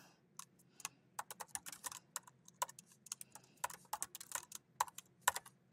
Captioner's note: keyboard clacking